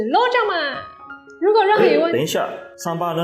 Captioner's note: cough.. wait a minute